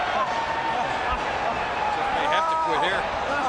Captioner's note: audience chattering